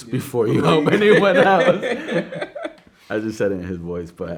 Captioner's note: both laughing